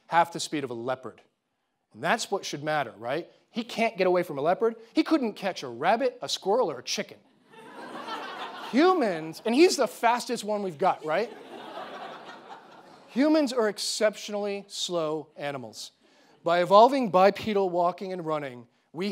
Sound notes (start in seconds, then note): 7.4 audience laughing